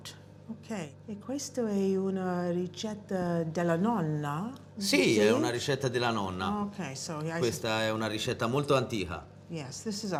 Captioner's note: speaking italian